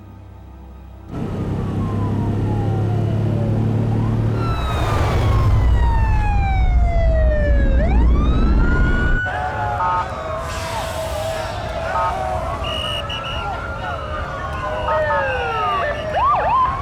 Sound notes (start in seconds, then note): 1.6 sirens; 10.0 honks /sirens; 11.3 crowd chatter